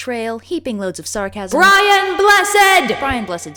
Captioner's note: shouting